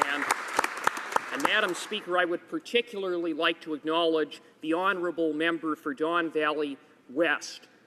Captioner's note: applause